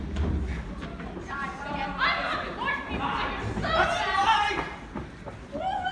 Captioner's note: general chaos